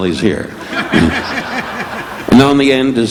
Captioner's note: audience laughing